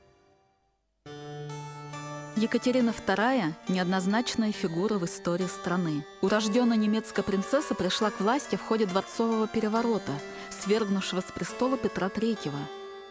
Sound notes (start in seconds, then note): 1.9 in Russian